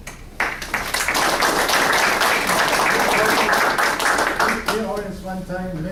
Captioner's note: applause